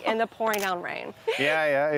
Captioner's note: laughs